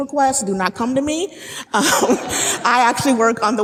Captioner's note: laughing